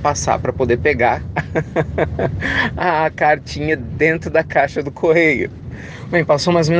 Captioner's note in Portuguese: risadas